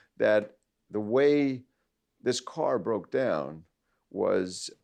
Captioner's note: none